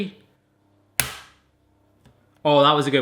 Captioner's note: cracking